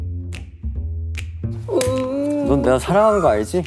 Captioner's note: yawns